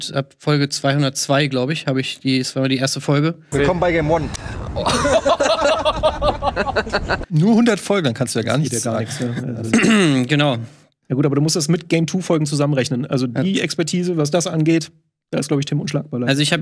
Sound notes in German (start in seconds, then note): 4.7 Gelächter; 9.6 Räuspern